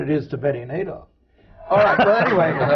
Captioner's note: laughter